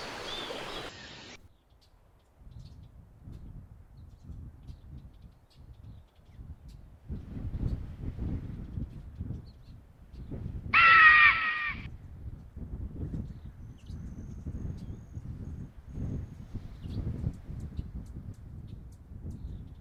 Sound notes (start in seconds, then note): 10.7 eagle shrieking